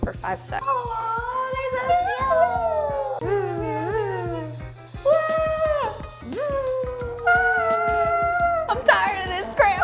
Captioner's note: various cute and chainsaw sound effects